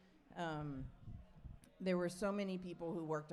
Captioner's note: none